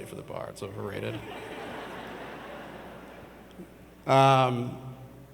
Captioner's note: audience laughs